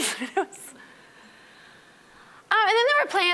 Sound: laughing

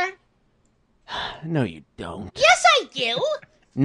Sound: sigh

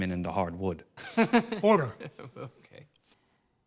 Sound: laughs

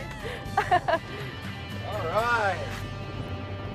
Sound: laughs

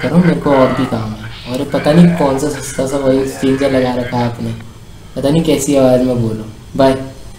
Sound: unknown laughing in the backround

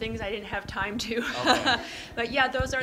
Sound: laughs

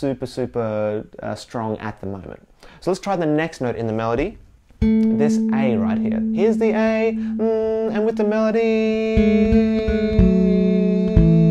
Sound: hums

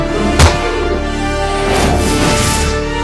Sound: kicking

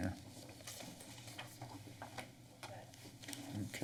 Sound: rustling sound

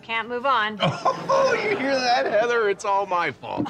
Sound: laughing

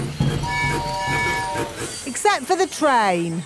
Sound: train tooting

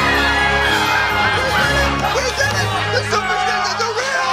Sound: cheering

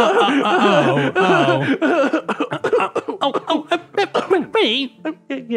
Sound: Fred coughs

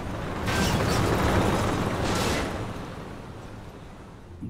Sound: tank rumbling

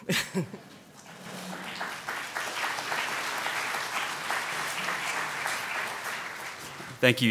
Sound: applause

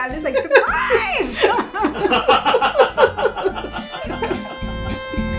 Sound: laughs; everyone laughing; upbeat music

